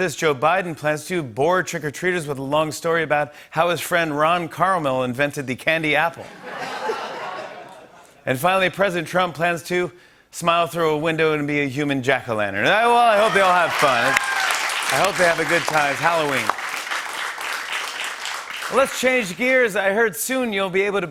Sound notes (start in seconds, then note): 6.2 laughter; 13.0 cheers and applause